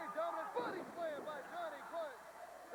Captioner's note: crowd cheering